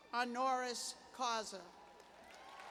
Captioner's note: cheers; applause